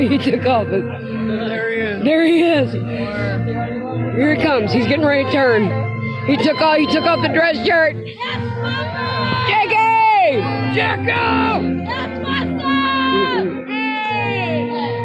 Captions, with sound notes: - There he is. - There he is. Here he comes, he's getting ready to turn. He took off the dress shirt! (cheering) Jakey! Jacob! (cheering)